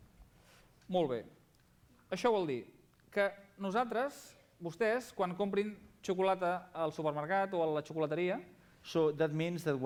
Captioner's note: non-english speech